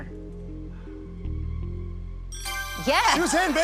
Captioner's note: sighs; ding